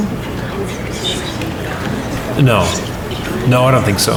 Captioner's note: crowd murmur